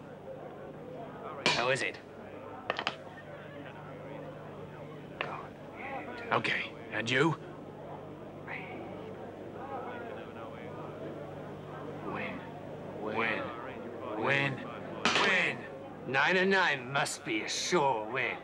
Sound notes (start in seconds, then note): 8.0 people chattering; 15.6 rattles